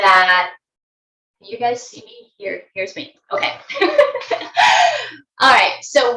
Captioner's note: laughing